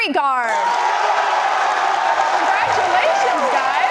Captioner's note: applause and cheers